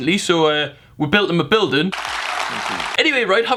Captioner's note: applaud